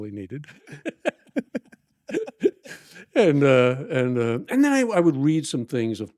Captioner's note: both laughing